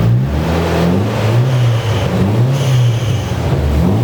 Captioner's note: engine revving